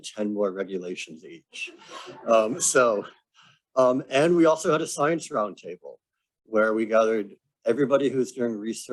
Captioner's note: laughter